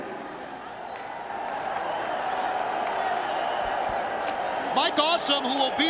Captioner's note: audience cheering